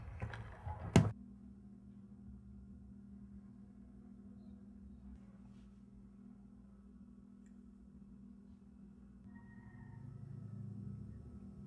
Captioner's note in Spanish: sin sonido